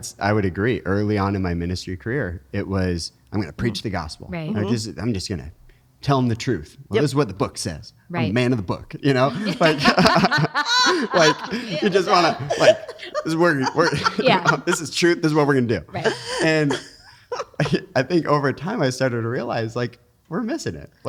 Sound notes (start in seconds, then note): 9.1 laughing